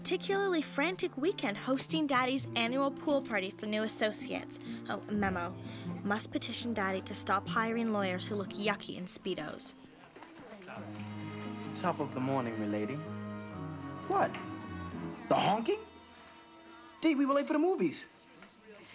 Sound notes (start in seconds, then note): none